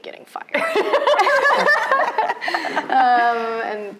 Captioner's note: both laughing